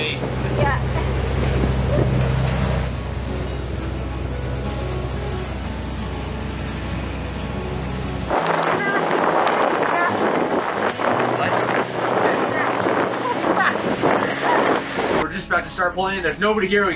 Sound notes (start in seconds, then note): 1.8 laughs; 8.2 talking distantly; 8.2 wind whooshes; 12.2 laughing; 12.2 wind whooshes